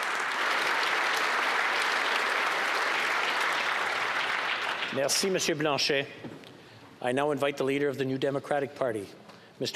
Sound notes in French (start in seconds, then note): 5.4 applaudissements